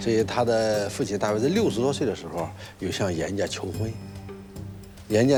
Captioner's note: hablan un idioma extranjero